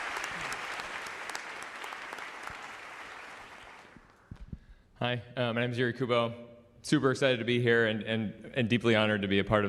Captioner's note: applause